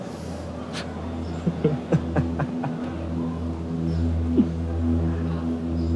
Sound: CAK JON laughs

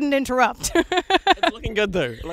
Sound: laughs

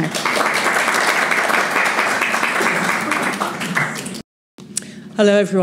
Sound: audience applauds

